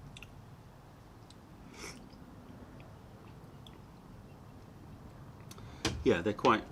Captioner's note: sips tea